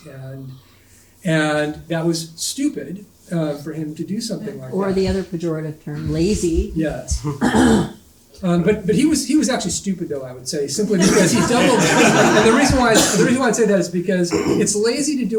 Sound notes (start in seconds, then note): 10.8 audience laughing